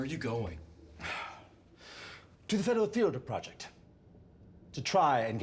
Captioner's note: sighs